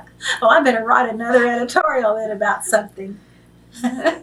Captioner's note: laughs